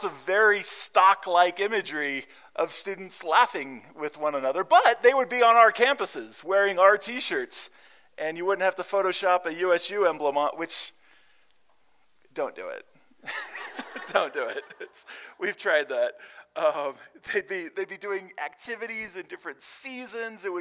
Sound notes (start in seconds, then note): 13.2 laughter